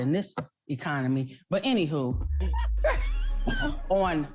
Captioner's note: laughs